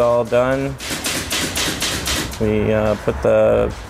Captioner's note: stapler sounds